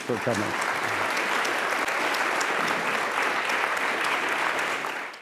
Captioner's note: applause